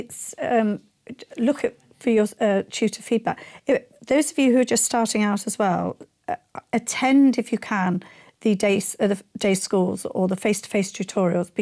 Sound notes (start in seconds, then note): none